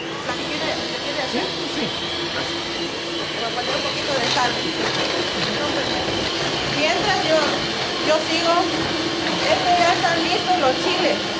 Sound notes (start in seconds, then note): 0.6 blender blending